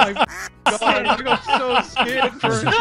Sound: laughs

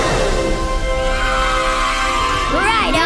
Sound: cheering

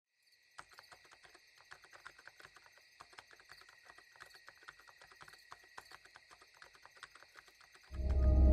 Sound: typing noises; ominous sound appears

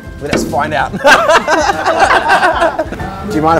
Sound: laughter

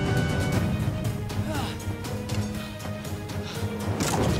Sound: gasp

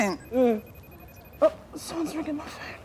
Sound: phone rings

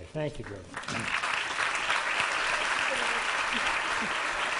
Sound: applause

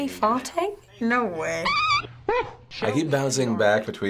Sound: preacher farts squeakily

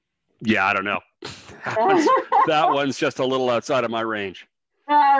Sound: laughs

